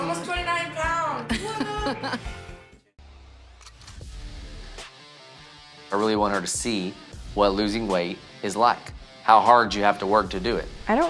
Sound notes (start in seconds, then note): 1.2 woman laughing; 4.1 upbeat rock music